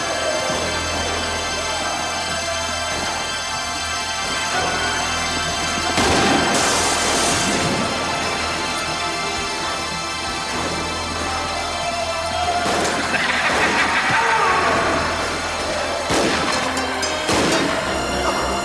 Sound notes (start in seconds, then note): 5.9 gun fires; 5.9 glass shatters; 12.6 Twister laughs; 12.6 gun fires; 14.2 town member groans; 16.0 guns fire